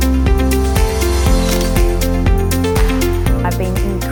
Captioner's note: camera clicks